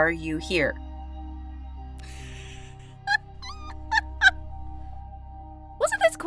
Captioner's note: laughs